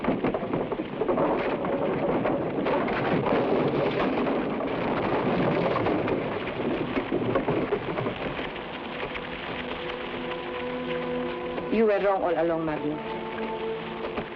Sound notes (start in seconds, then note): 0.3 carriage wheels rumble; 2.6 wagon crashes; 10.1 suspenseful music